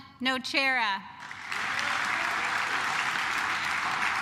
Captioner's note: claps